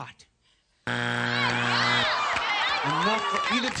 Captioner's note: buzzer